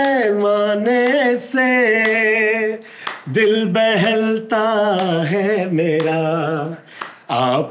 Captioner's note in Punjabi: ਤਾੜੀਆਂ